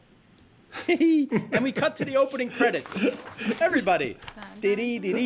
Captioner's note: chuckling